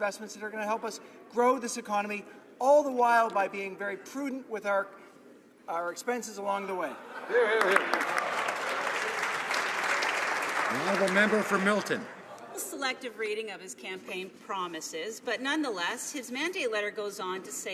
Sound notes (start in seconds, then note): 12.2 some Applause